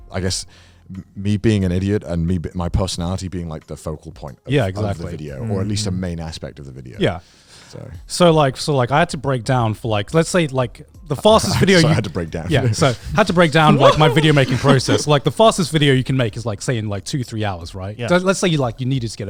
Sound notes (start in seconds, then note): 11.3 laughing